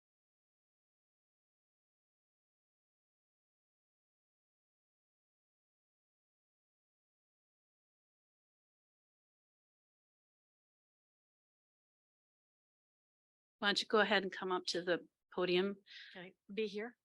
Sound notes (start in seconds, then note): 0.9 silence